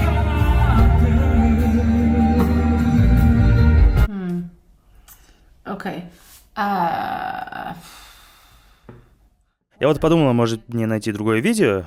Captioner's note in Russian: вздыхает